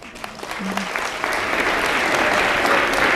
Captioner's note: applause